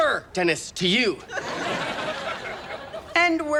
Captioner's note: audience laughs